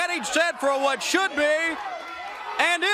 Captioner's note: crowd cheering